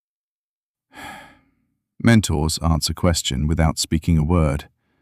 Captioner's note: sigh